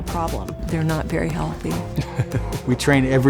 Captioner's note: laughs